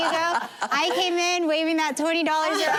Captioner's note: laughter